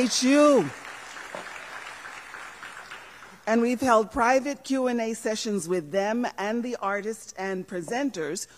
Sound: applause

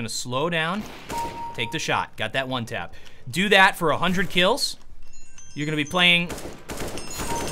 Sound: phone rings

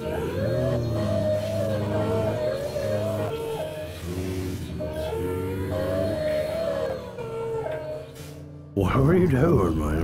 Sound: alien noises

